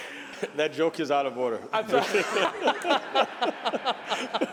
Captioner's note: laughter